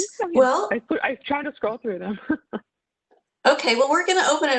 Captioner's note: laughs